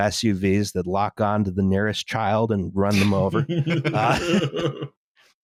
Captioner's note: laughter